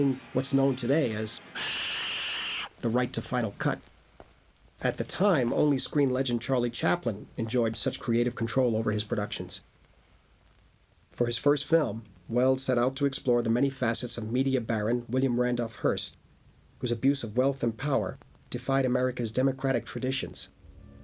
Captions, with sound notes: including what's known today as... - [Loud Squawk] - the right to final cut. At the time only screen legend Charlie Chaplin... enjoyed such creative control over his productions. For his first film Welles set out to explore the many facets... of media baron William Randolph Hearst, whose abuse of wealth and power defied America's democratic traditions.